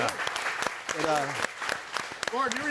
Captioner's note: audience applauding